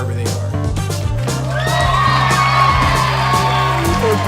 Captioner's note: crowd cheering